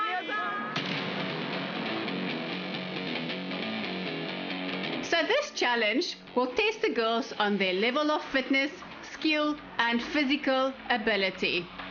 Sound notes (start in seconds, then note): 0.2 upbeat music; 5.1 narrating